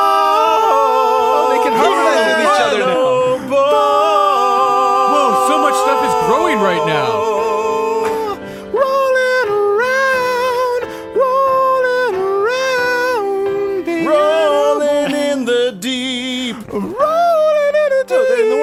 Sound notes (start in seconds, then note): 0.0 harmony; 10.2 falsetto